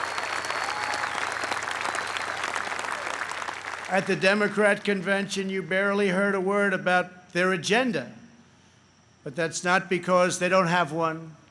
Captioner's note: applause